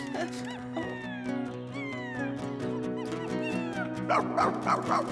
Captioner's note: Scruffty Whining